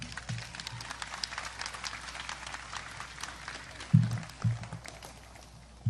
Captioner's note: audience applause